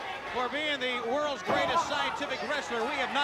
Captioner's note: crowd chatter